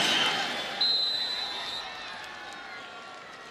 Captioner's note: whistle blowing